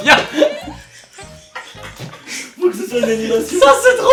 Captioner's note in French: rires